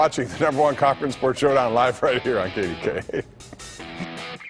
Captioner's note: laughter